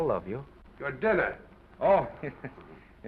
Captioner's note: chuckles